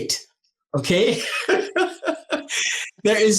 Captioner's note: laughing